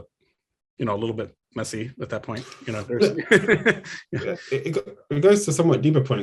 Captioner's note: laughs